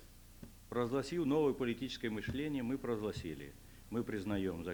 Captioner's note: non-english speech